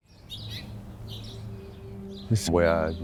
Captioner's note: birds chirping